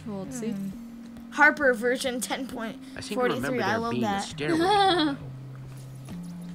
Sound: giggles

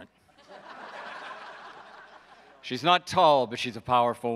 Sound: audience laughs

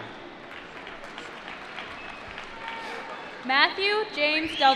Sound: applause

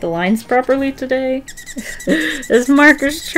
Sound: marker squeaking

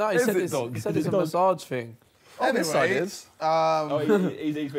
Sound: group chattering

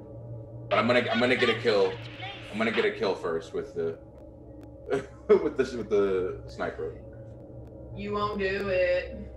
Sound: laugh

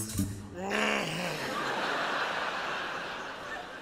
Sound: groans

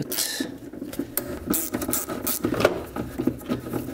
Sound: nut turning

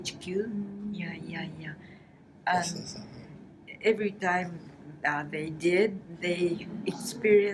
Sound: foreign language

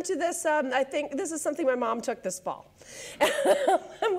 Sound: laughs

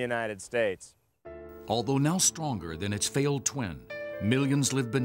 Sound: voiceover

